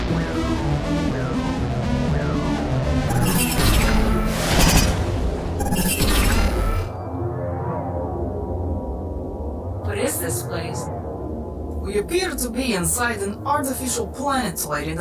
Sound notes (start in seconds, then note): 0.2 suspenseful synth music; 4.3 portal buzzes; 7.3 eerie synth music